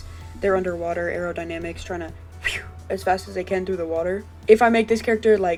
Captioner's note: zip